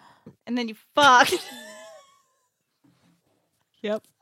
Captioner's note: laughs